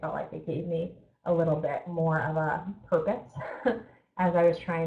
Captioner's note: chuckles